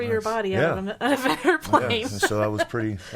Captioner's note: laughing